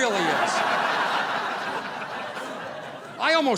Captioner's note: audience laughing